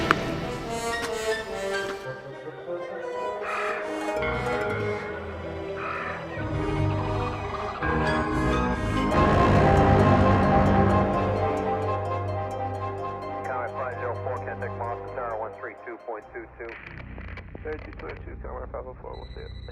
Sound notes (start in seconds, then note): 3.2 sound of morning birds